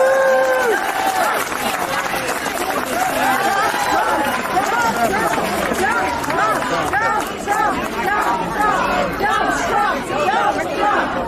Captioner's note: applause